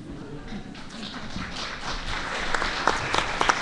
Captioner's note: laughter, applause